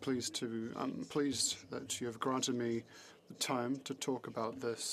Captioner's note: speaking French